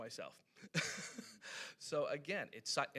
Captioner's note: laughing